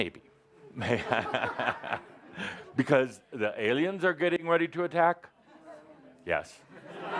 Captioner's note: Adamus chuckles; lots of laughter